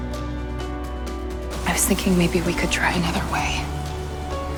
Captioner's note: voiceover